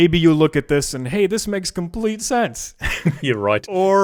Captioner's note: laughs